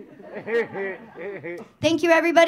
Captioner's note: audience laughing